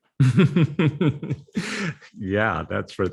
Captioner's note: laughing